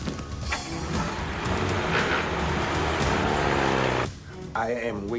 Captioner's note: engine revving